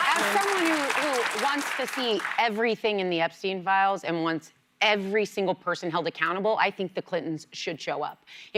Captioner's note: cheers and applause